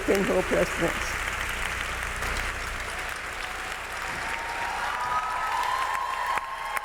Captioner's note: audience clapping; audience cheering